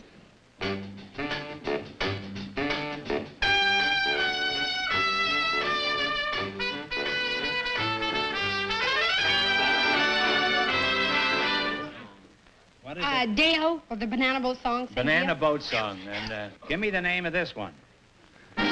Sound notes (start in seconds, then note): 5.6 whispering